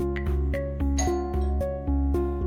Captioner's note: doorbell chimes